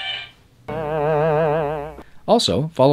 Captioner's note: buzzing